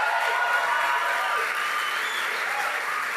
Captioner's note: applause